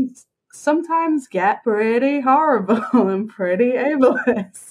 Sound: laughs

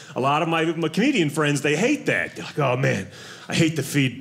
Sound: none

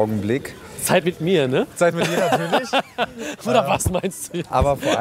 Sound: laughs

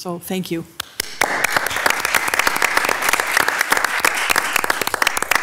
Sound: everyone clapping

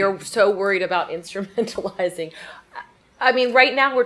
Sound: chuckles

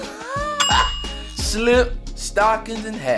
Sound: bell sound

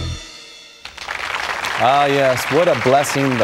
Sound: applause

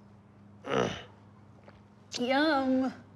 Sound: Rufus grunts

